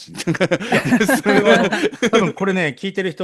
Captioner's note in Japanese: 笑い